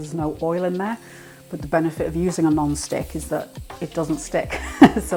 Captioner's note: laugh